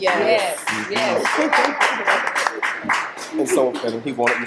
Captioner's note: audience applauding